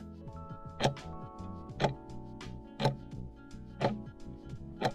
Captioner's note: timer ticking